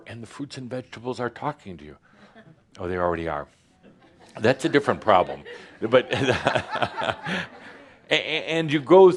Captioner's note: some laughter